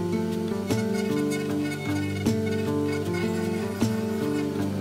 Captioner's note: router buzzing